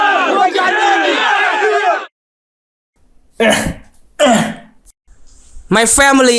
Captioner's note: groaning